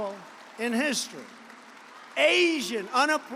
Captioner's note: applause